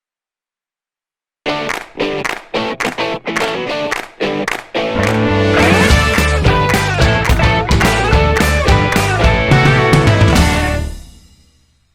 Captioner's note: claps